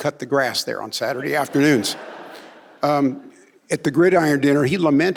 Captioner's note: audience laughing